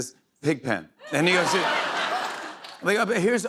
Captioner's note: laughter